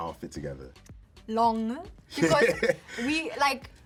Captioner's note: laughs